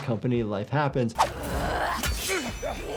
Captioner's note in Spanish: espadas chocando; enemigo gruñendo; Senua gruñe